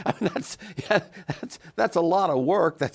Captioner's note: chuckles